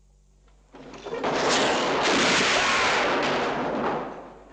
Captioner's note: gun fires